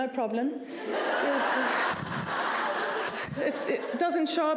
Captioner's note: laughter